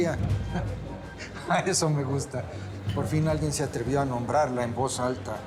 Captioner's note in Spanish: risas